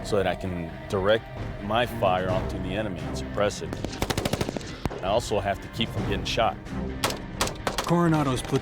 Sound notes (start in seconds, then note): 3.7 gunfire; 7.3 voiceover